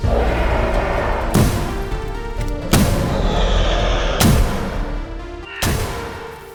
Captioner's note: loud roars; menacing roars; gunshots